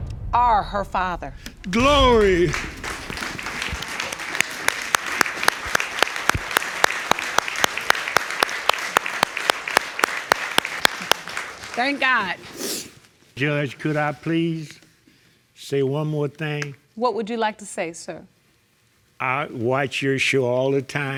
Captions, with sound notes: Are her father. Glory! (AUDIENCE CLAPPING) Thank God. (SNIFFLES) Judge, could I please say one more thing? What would you like to say, sir? I watch your show all the time.